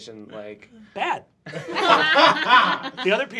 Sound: laughing

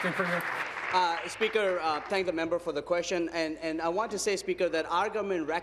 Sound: applause

